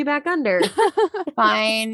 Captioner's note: laughing